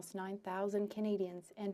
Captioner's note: speaking French